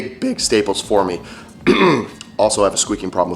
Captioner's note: clearing throat